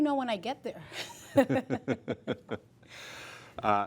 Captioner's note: laughter